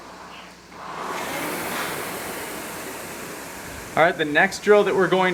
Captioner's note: rowing machine whirring